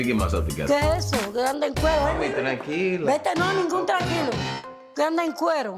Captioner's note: speaking Spanish